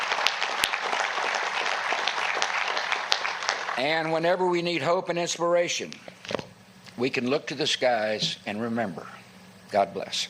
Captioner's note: applause